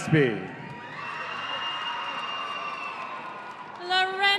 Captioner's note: audience cheering